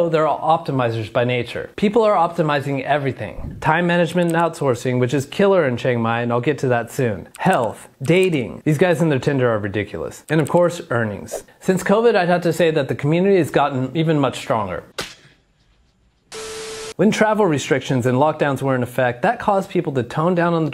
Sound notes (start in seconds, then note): 15.0 hands slapping; 15.0 film beeping